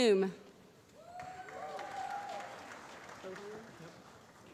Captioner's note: applause